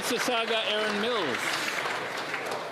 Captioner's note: applause